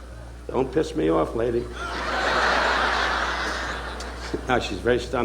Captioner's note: audience laughing